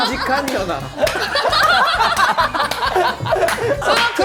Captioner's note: laughing